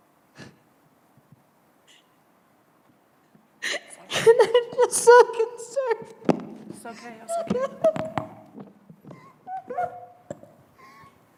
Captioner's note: sobbing